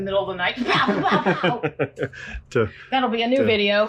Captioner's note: imitates mousetraps